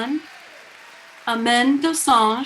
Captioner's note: people cheering